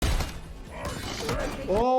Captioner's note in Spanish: disparos de arma de fuego